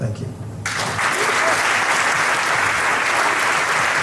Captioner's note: crowd applauding